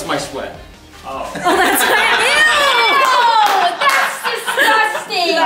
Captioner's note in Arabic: الجميع يضحكون